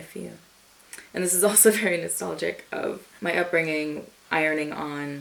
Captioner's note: smacks lips